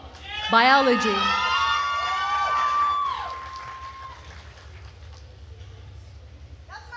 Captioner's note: attendees cheering and applauding